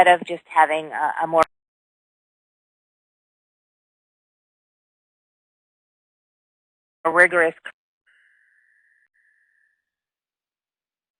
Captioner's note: audio gap